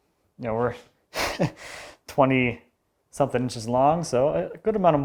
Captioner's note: laughing